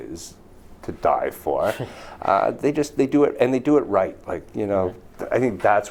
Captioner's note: laughs